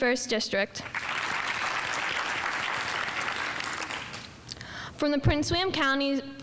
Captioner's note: audience applauding